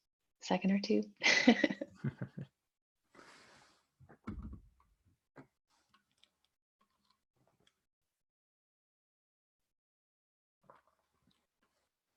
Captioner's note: chuckling